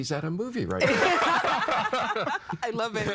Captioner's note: all laughing